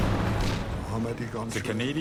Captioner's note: speaking in foreign language